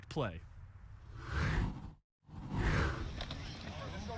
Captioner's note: air whooshes